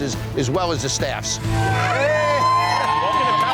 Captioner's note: cheer